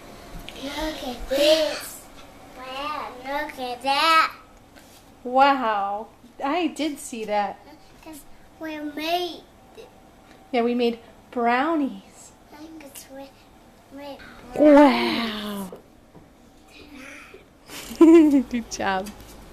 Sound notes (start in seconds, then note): 17.7 laughter